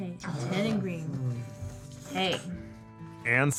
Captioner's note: dog growls